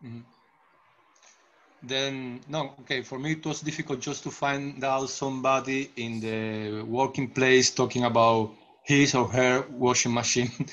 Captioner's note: chuckles